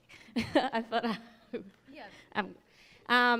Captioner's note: laughing